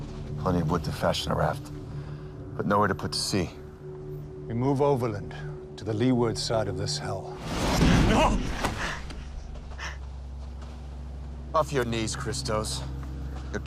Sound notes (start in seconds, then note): 8.1 Christos gasps; 8.1 dramatic music